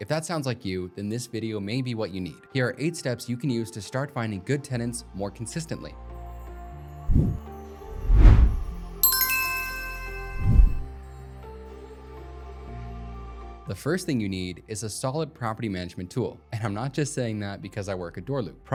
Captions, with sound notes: If that sounds like you, then this video may be what you need. Here are eight steps you can use to start finding good tenants more consistently. (upbeat music) (logo dings) The first thing you need is a solid property management tool, and I'm not just saying that because I work at DoorLoop.